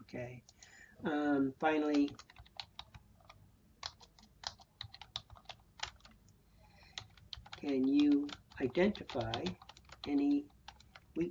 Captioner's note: typing